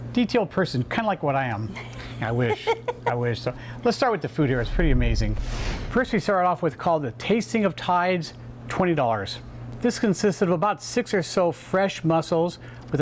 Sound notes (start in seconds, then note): 1.6 laughing; 4.5 swish